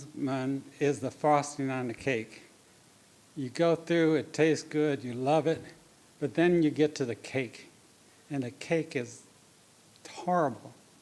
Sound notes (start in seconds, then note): none